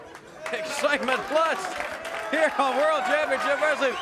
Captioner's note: crowd cheering